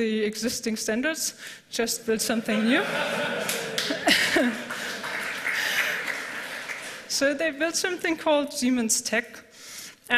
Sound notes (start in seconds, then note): 2.5 laughter; 3.3 applause